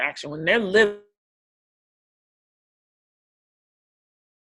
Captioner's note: audio distorted